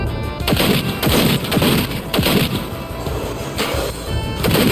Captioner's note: gunshots firing